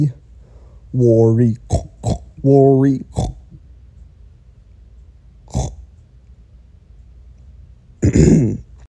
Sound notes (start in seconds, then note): 1.7 horchk horchk; 8.0 clear throat noises